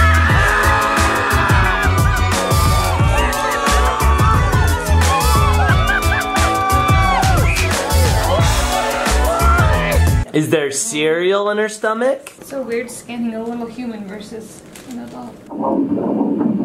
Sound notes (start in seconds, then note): 3.0 cheering